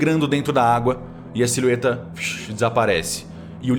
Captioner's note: shhh